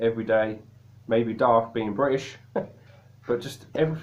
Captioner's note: chuckles